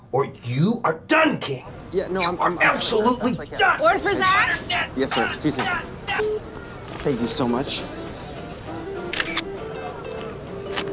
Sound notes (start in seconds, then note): 6.3 beep; 9.1 camera click